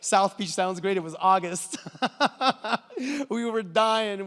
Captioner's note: laughs